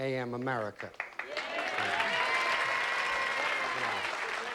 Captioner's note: audience applauds